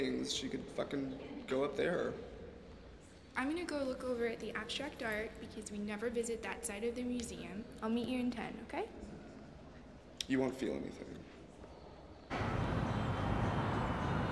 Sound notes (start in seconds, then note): 12.3 train speeding past